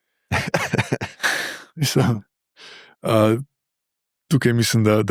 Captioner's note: laughter